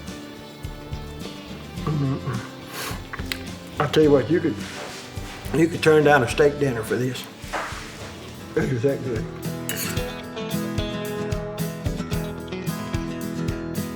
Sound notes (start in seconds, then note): 3.0 chewing; 10.2 upbeat guitar music